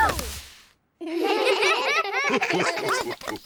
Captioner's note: all giggle